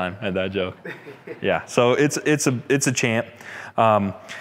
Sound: laughs

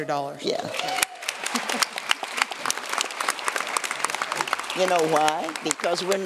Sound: applause

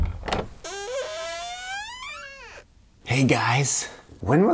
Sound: door opening

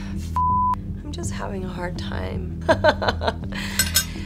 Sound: laughing

